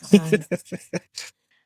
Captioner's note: laughs